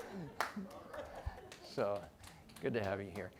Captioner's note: audience laughing